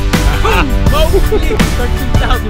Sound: laughing

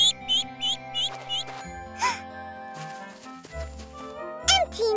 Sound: chirping

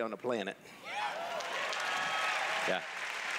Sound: cheers

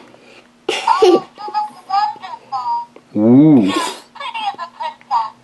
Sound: recorded voices

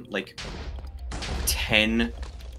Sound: explosions

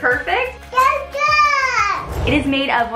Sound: yelling

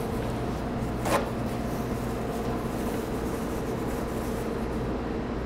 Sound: kitchen paper towel rips

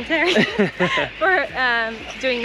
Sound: both chuckle

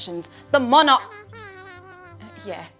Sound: jabbering

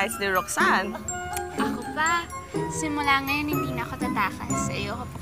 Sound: clicks tongue

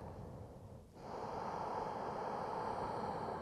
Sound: none

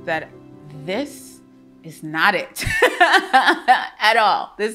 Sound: laughs joyfully

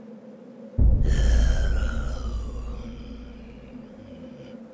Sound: mysterious mutant moans menacingly

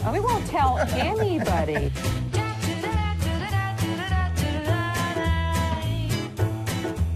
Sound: man laughs

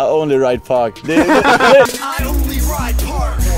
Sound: hard laughing

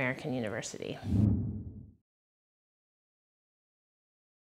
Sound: graphic whooshing

